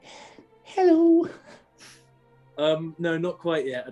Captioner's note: softly, high-pitched